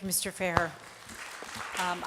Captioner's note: applause